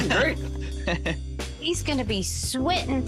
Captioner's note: laughs